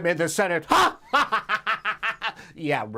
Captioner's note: laughs